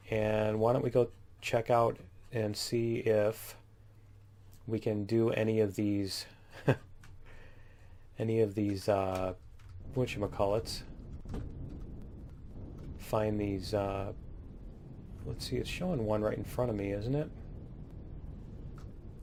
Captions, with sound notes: Why don't we go check out and see if we can do any of these [laughs] whatchamacallits. Find these... Let's see, it's showing one right in front of me, isn't it?